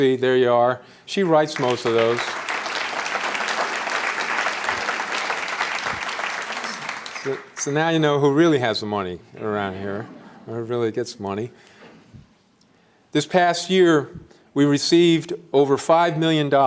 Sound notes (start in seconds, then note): 1.2 applause